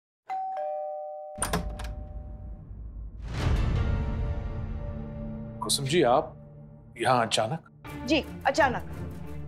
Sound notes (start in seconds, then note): 0.2 doorbell rings; 1.4 door opens